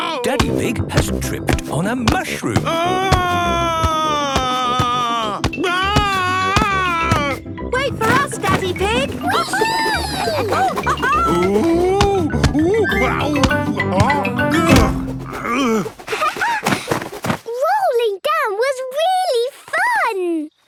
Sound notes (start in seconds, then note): 2.6 shouting; 10.6 laughing; 14.8 laughing